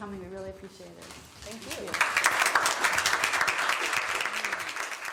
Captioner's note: applause